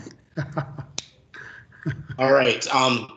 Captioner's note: laughing